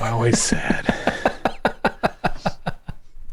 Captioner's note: laughter